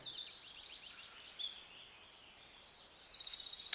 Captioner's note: birds chirping